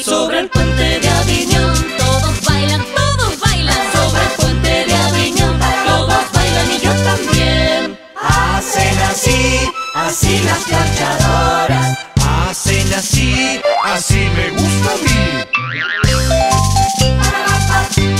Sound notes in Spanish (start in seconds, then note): 15.4 ♫Toing♫